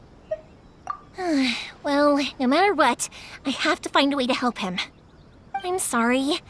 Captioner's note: sigh